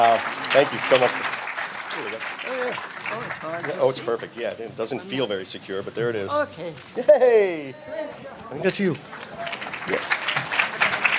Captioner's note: applause